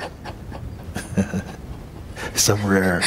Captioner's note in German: lacht